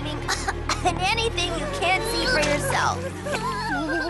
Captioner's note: coughs; coughs